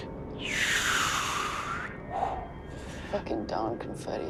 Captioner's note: imitates wind whistling